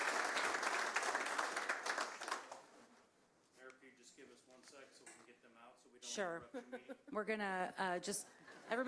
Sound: applause

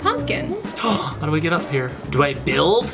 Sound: gasps

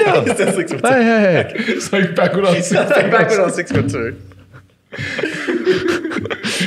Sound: laughing

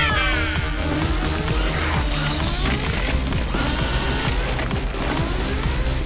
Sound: Destructivas cackling; alarm blaring; sparks crackling

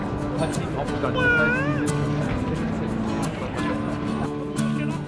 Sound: people chatter

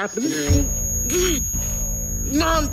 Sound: loud Ringing

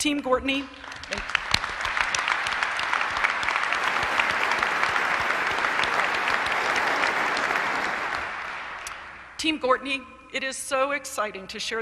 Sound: applause

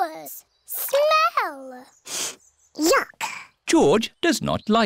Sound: sniffs

